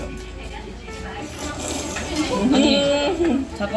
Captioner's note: sluuurrrppp